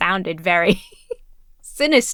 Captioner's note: laughs